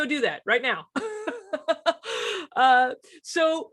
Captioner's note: laughs